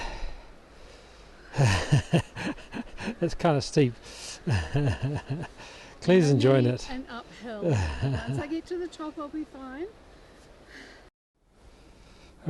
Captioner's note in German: lacht